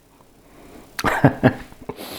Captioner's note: laughs